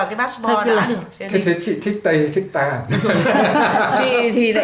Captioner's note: laugh